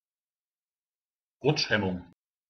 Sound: fast Pronunciation

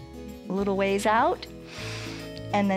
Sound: inhales

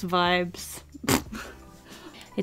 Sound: nose laugh

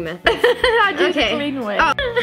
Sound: giggles

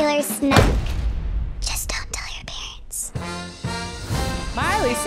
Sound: whispering

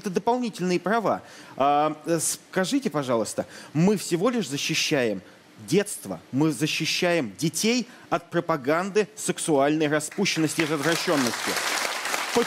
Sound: applause

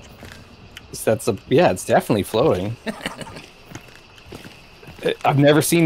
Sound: chuckles

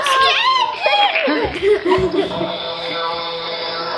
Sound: laughing

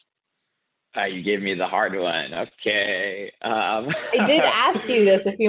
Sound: laughs

